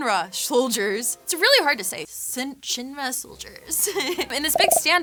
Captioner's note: laughs